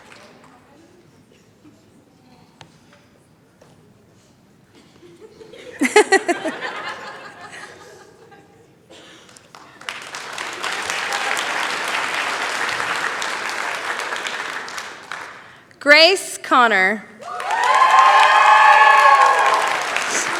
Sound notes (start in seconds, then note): 5.0 laughter; 9.2 applause; 17.2 cheering, applause